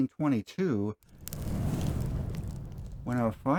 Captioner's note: explosion sound